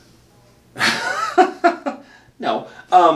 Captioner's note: laughing